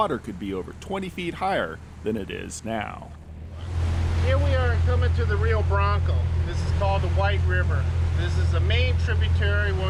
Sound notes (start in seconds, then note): 3.0 boat engine running